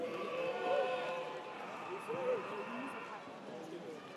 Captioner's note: audience cheers